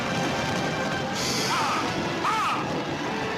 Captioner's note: neighing